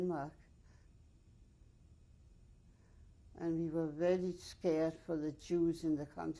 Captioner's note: pauses for 3 seconds